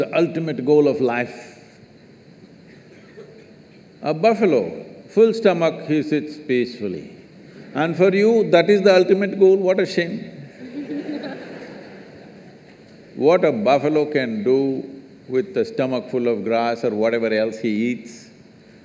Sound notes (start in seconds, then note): 10.6 laughter